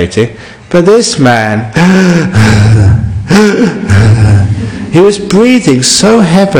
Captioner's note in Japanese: うるさい呼吸の真似